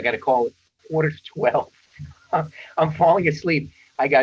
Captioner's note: chuckles